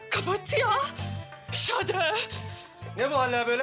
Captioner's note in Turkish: Almanca konuşma